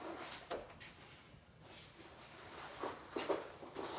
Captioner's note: cloth rustles